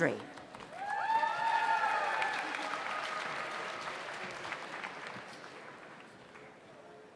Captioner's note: audience applauds; audience cheers